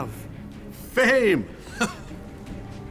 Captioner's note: chuckles